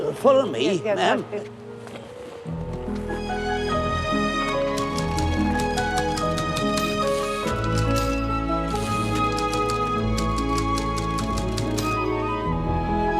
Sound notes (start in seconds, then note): 3.4 light orchestral music; 5.3 typewriter keys clacking